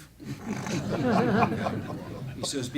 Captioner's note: laughing